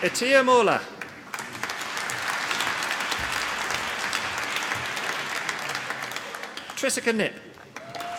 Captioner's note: applause